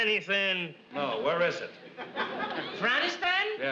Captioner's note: audience laughs